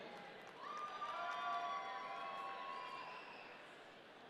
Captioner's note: audience cheering